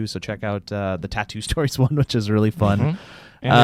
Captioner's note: chuckles